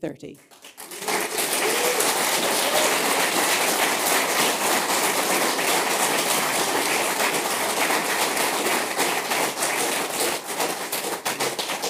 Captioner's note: applause